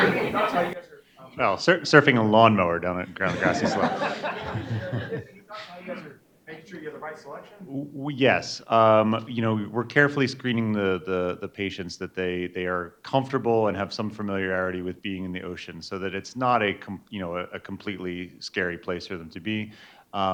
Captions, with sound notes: (audience laughing) - Oh, surfing a lawnmower down at ground the grass is slope. (audience laughing) - How you guys are making sure you have the right selection? - Yes. You know, we're carefully screening the patients that they are comfortable and have some familiarity with being in the ocean so that it's not a completely scary place for them to be.